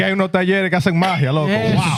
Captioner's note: speaking Spanish